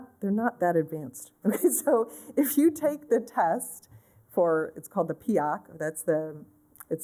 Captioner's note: laughter